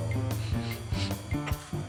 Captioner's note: sniff Sniff Sniff